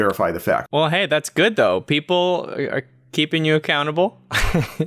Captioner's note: chuckles